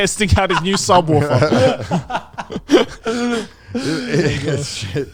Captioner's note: all laughing